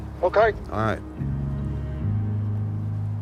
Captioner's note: on phone